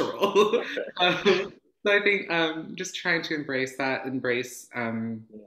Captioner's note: laughs